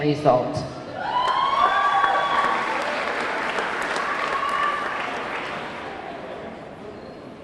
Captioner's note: audience cheering; audience clapping